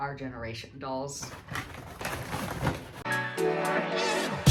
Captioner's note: package opening noises